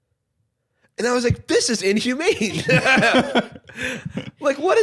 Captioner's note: laughs